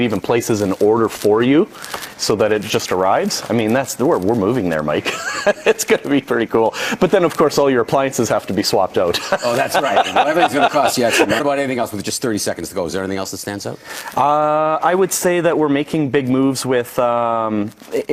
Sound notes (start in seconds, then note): 5.0 chuckling; 9.1 laughing